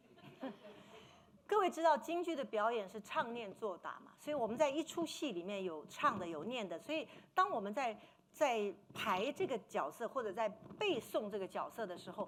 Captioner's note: speaking Mandarin